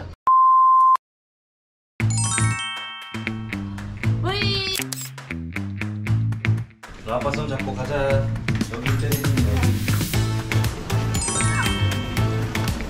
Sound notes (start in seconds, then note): 4.8 snap